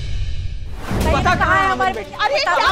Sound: everyone clamouring

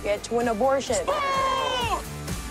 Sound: yelling

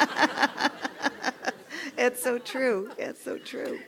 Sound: laugh

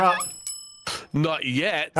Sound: bell ringing

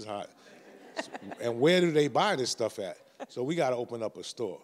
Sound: audience laughs

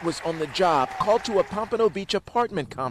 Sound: applause

